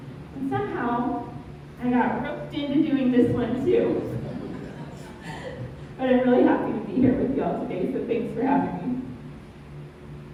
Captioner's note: laughter